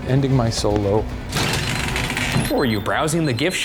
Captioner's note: door rattles